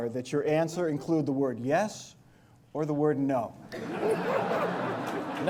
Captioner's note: laughter